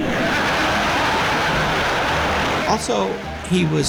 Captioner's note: laughter